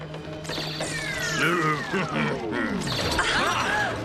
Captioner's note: chuckling